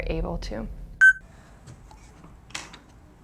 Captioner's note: beeps